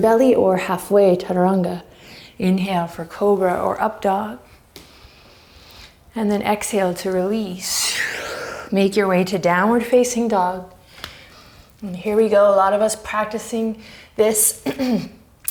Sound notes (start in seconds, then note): 7.9 deep breaths